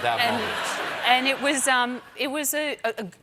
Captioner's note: laughter